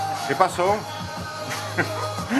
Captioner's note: laughs